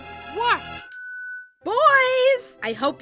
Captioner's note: bell chimes